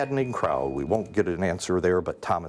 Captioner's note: bell ringing